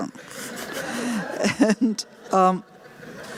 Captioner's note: laughter